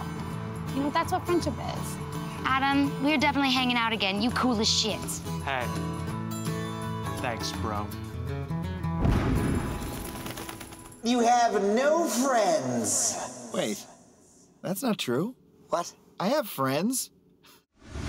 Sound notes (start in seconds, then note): 9.0 explosion, wings flapping; 10.8 echoing